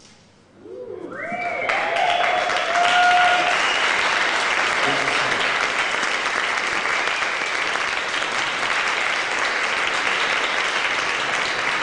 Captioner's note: applause